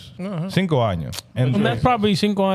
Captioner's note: speaking In Foreign Language